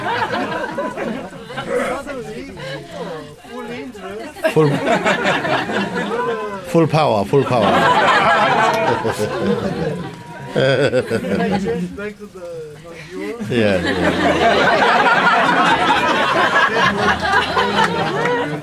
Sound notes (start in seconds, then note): 4.2 laughter; 16.5 laughter